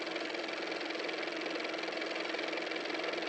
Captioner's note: car motor